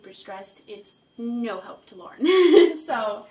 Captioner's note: laughs